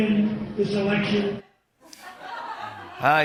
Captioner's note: laughter